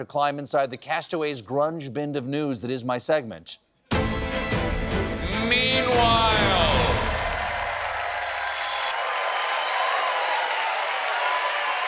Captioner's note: cheering